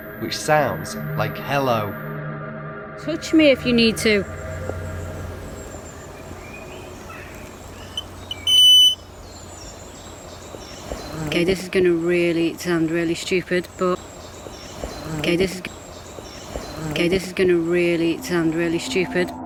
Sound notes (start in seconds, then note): 6.1 birds chirping; 8.0 beeping; 8.0 birds chirping; 19.2 suspense music